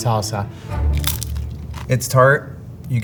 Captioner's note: mouth crunching